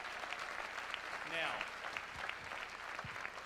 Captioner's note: applause